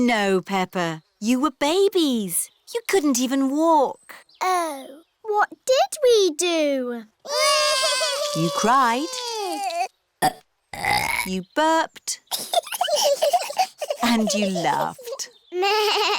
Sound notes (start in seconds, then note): 7.2 both bawling; 10.7 both burping; 12.3 both giggling